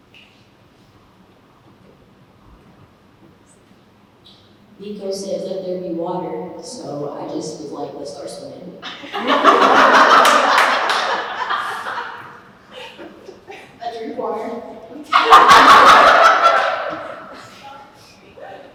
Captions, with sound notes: Nico says let thier be water, so I was just like let's start swimming. I drink water. [Laughter]